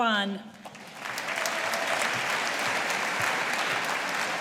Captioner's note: audience applauding